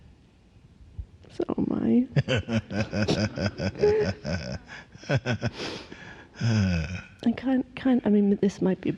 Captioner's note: tears, laughter